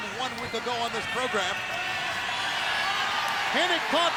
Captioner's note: crowd cheering